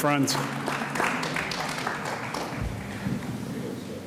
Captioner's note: audience applauds